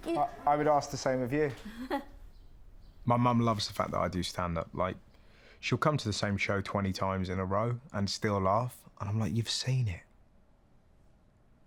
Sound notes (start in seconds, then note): 1.6 mum laughing quietly